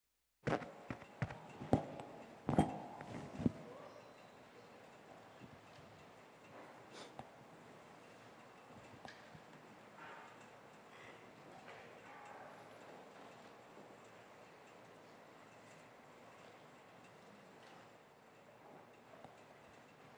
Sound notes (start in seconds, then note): 0.0 silence